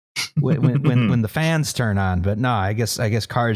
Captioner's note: chuckles